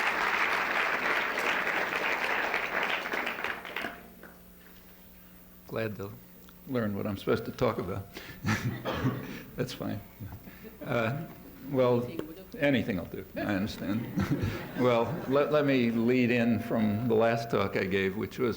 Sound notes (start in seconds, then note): 13.8 laughter